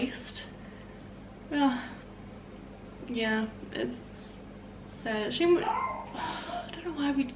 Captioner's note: dog barking